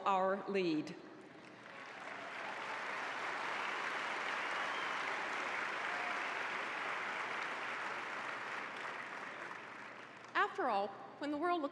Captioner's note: applause